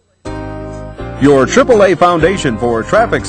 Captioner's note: voiceover